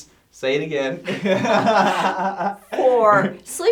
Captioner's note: laughing